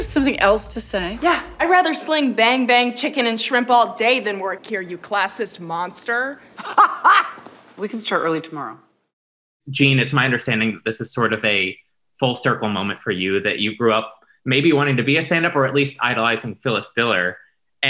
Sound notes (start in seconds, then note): 6.5 laughs